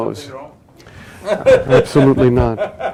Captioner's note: laughs